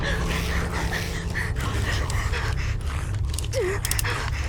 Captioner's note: grumbling; heavy breathing; gun clicking